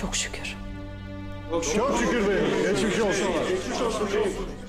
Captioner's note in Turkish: Hep bir ağızdan